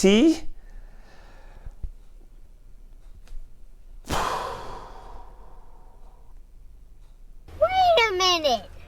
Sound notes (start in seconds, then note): 4.0 deep breath